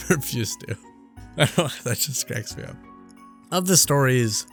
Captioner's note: laughing